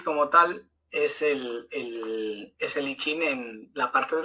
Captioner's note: speaking Spanish